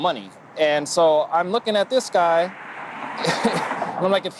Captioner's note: laughs